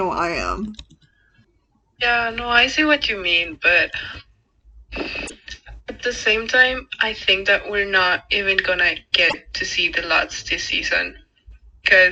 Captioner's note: sighs